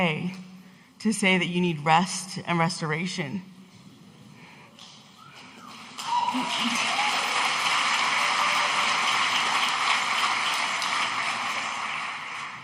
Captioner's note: audience applauding